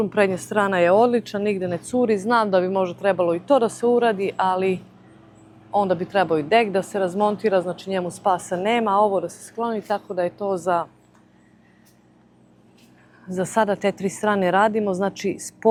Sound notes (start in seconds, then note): none